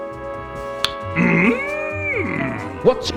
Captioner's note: click